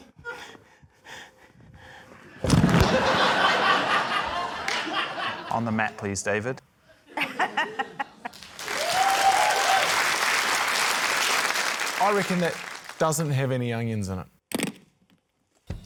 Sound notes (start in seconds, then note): 2.7 laughter; 7.0 laughs; 8.3 cheering, applause